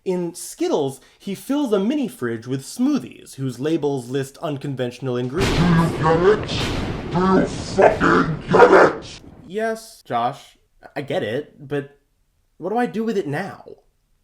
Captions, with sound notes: In “Skittles”, he fills a mini-fridge with smoothies whose labels list unconventional ingredi- [THUNDER CLAP] DO YOU GET IT?! DO YOU GET IT?! DO YOU F-ING GET IT?!!?! Yes, Josh. I get it, but... What do I do with it now?